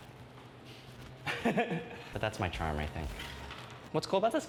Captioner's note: laughs